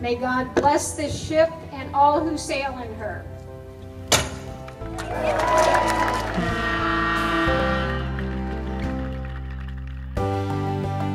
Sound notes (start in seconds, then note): 3.9 bottle crashes; 4.8 applause and cheers